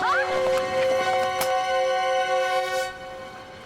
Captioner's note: yelling